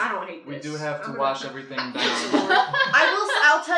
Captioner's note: laughter